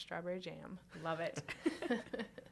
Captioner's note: laughter